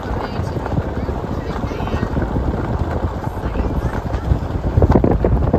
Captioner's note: driving on a gravel road